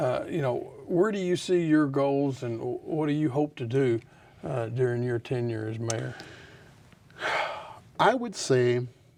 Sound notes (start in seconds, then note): 7.2 sighs